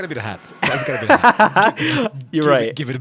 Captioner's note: laughs